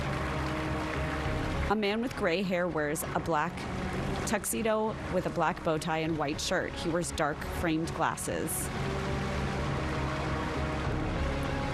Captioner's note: applause